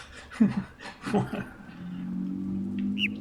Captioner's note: chuckles; overlapping birds chirping, ˥ ˥ ˩ ˧ ˩